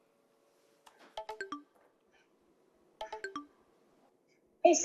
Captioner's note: digital tone plays